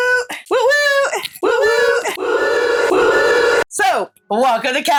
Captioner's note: woot wooting into infinity